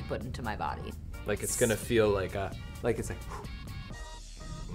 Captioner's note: blows air